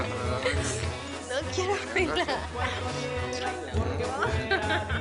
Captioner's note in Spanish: Risas